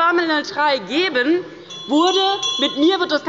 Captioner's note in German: Unruhe – Glockenzeichen des Präsidenten